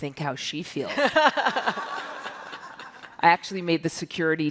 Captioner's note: all laugh